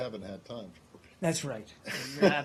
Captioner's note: laughter